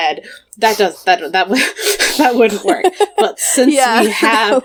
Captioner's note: laughs